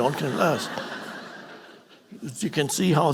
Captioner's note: audience laughing